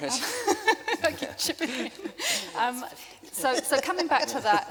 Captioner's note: laughing